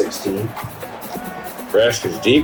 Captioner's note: crowd Noises